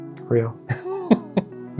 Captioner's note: laughs